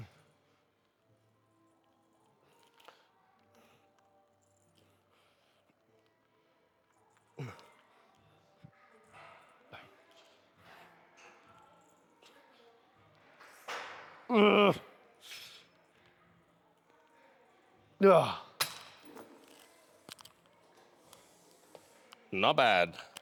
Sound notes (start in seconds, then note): 7.4 soft music; 8.8 grunting